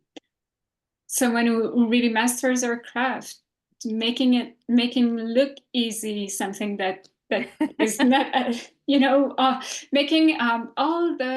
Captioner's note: laughs